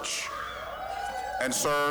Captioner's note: scattered cheering